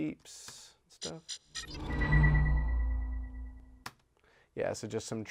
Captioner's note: electronic beeps play